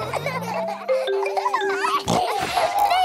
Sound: all laughing; giggles, snorts

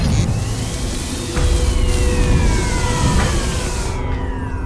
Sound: robotic noises, stirring, turning on; robotic noises shutting off

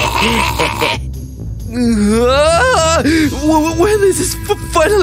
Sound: laughs happily

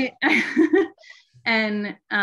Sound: chuckling

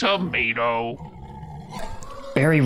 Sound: squeal. Scurry

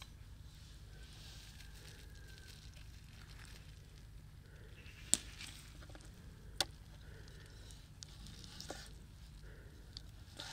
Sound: sound of birds

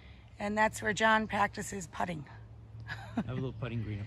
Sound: laughs

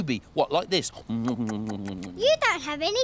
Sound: munching

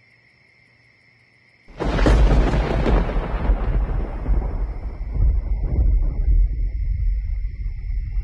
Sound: thunder

